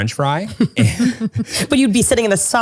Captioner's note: both giggle